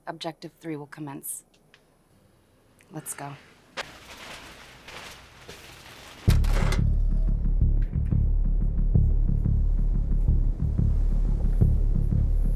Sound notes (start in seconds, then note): 3.9 rattling; 5.4 clanking; 8.4 suspenseful orchestral music